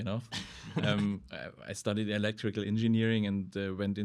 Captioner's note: laughing